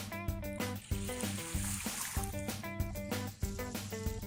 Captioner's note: water splashing